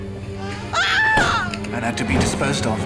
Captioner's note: Edna screaming